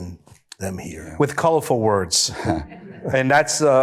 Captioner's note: audience laughter